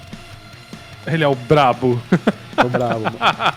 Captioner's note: laughs